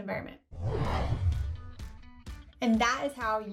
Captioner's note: logo whooshing